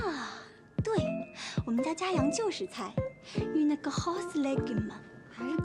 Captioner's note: French